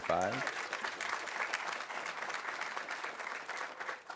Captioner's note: audience applauding